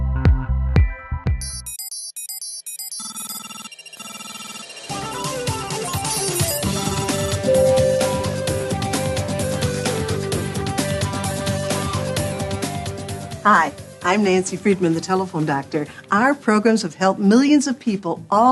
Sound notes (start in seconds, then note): 1.4 digital beeping; 5.3 upbeat music